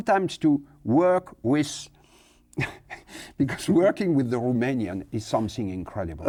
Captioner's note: laughs